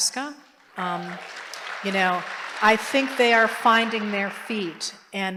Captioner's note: applause